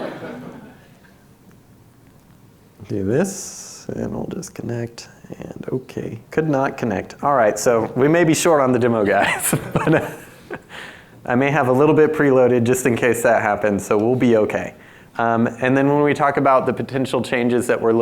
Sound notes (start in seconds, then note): 0.0 audience laughs; 9.0 laughs